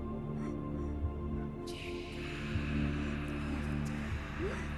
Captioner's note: crying